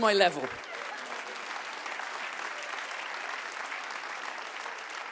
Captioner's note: audience claps